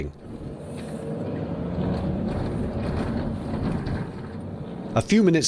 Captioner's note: engine revving, and happy vibes from a pleasant passing